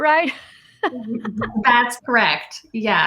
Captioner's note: laughs